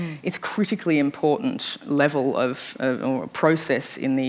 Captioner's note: none